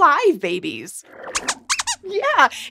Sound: squeaks squeaks

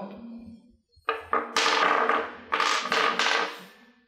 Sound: blocks clattering on table

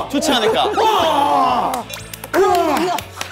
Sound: unable to breathe

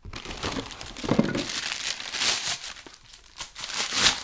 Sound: paper crunching

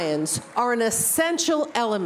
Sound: applause

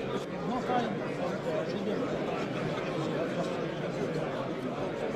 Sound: speaking foreign language

